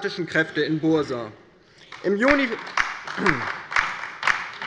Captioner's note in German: Beifall bei der LINKEN